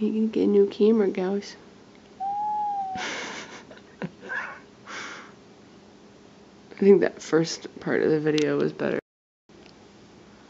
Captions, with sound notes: I need to get a new camera, guys. (cat meows softly) (laughs) I think that first part of the video was better.